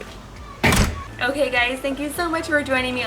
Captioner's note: door clicks